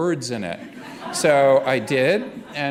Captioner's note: laughter